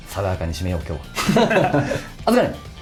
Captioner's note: laughs